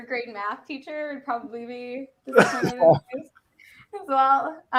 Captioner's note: faintly speaking